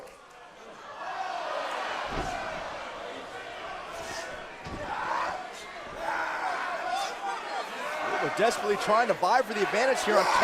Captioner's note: crowd chatter